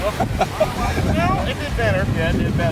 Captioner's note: family laughing